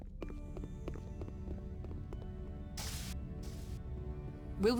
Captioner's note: static